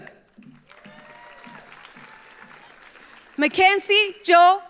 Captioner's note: audience applauds